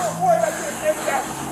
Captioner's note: sirens wailing